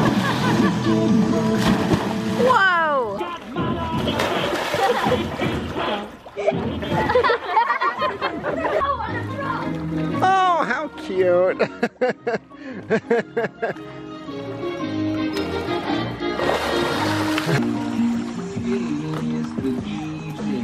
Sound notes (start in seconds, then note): 0.0 kids laughing; 11.4 laughing